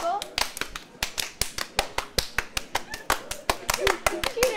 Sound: clapping

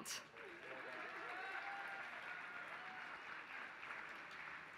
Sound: applause

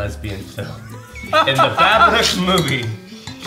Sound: all laughing

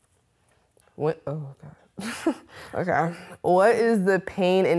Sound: laughs

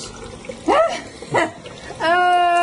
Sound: female laughs

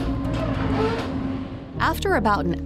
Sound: door squeaking

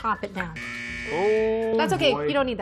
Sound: buzzer

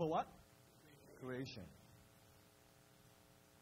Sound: crowd

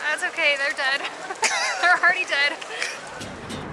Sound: laughter

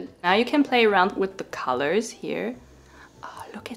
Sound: none

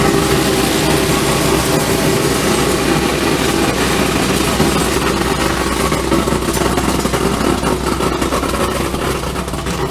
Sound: machine running

